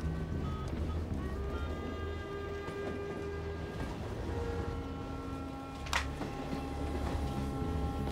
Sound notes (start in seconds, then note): 2.7 phone dialing